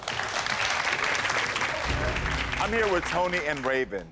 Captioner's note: audience applaud